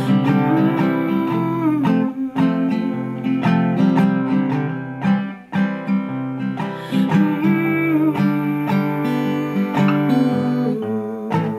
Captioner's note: humming